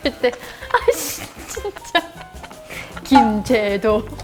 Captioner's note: laughs